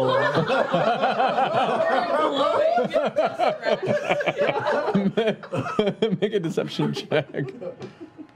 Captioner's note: laughter